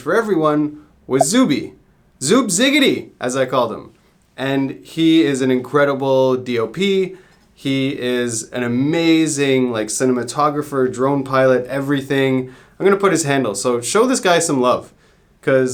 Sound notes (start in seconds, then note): none